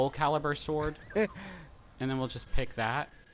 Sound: laughs

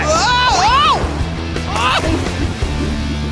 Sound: yelling

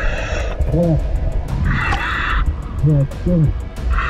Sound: murmurs

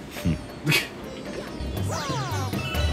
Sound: laughs

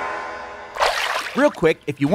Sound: water splashing

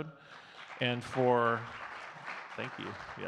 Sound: audience clapping

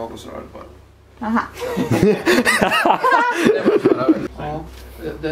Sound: laugh

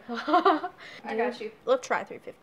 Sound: laughs

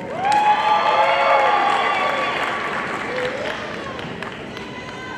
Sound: audience cheering and applauding

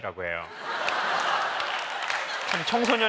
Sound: laugh

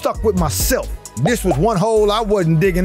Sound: animation pops

